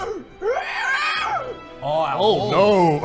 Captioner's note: beastly scream